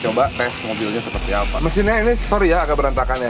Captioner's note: messy engine